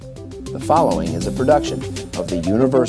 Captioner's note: voiceover